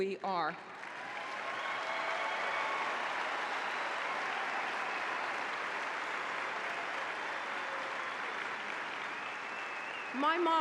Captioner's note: applause